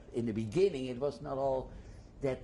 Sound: none

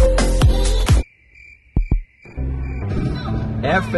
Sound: crickets chirping

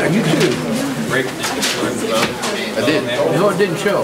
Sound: overlapping chattering

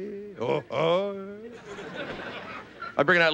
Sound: playful grunting; audience laughing

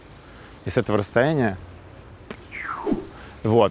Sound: makes whizzing sound

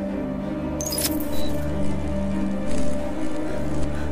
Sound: lights flickering

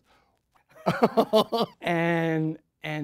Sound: laughing

